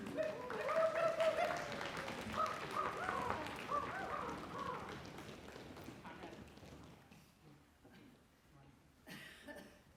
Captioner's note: applause